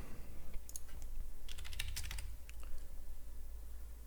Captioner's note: typing